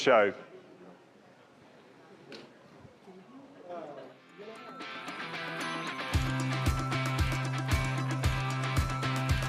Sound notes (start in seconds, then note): 4.3 attendees chattering loudly; 4.7 exciting upbeat music